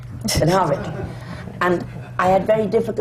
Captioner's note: laughter